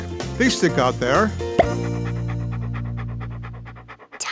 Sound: panting

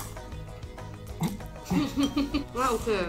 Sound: chokes

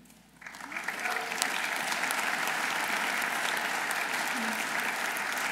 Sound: audience applauding

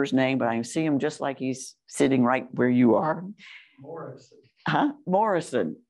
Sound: off mic

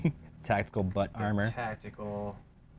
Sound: laughs

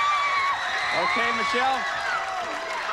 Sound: audience cheering

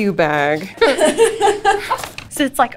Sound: laughs

